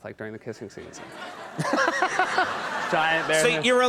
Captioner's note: audience laughs